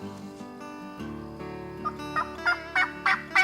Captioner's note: turkey calling